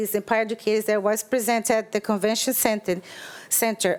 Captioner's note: none